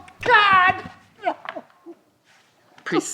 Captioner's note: sobbing